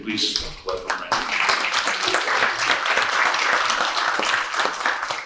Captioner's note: audience applauds